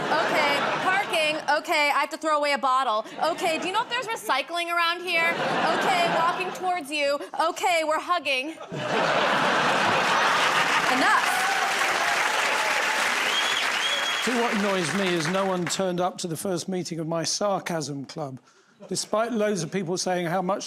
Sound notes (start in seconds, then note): 8.5 laughter; 12.3 cheers and applause